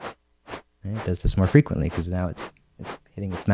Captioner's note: shorter, faster wave sounds